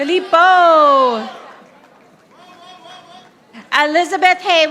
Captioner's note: audience applauding